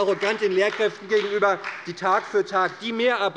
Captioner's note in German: Beifall bei der SPD